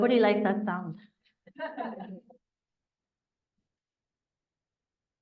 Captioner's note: laughter